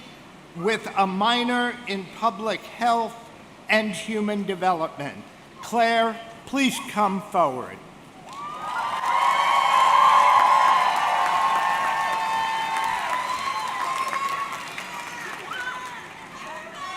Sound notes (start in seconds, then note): 8.3 audience cheering